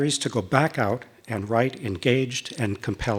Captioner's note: none